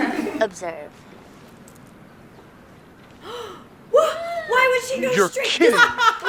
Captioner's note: laughter; gasping from the lesbian/bisexual audience